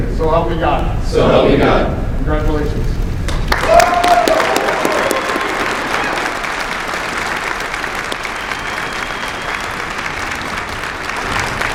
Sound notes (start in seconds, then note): 0.0 commissionees repeat; 1.7 commissionees repeat; 3.4 applause